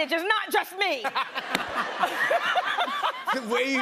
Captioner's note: laughter